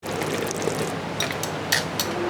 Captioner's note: pot burbling; bowl clanking